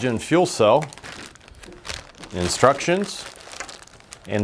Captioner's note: plastic crinkling